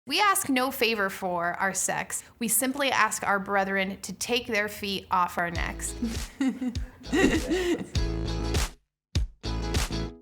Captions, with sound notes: - We ask no favor for our sex, we simply ask our brethren to take their feet off our necks. (laughs) (light music)